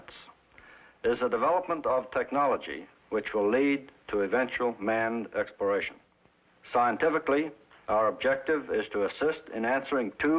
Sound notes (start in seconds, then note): none